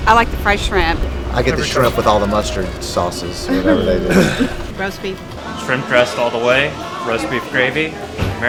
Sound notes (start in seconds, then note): 4.5 laughing